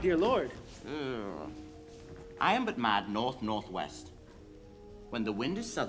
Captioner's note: grumbles